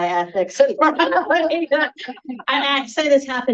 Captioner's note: everyone laughing